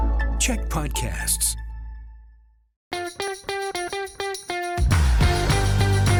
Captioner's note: announcer voice